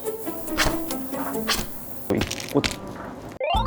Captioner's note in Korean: 싹둑!